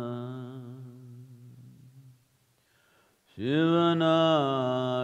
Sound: none

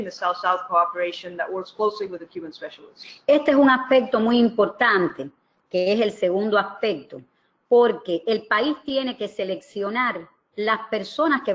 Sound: speaking another language

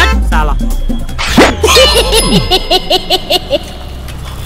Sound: Cycle laughs

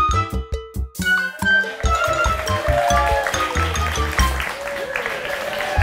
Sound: playful music; crowd cheering and clapping

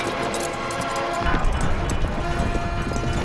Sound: wood clattering; dramatic orchestral music

